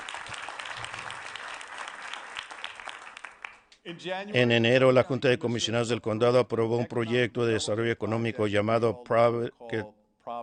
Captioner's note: applause